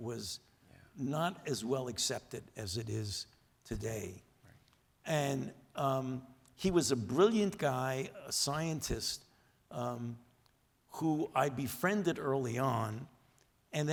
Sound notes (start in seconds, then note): none